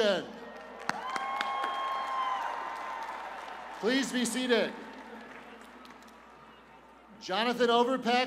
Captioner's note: cheers and applause